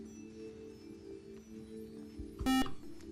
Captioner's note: beep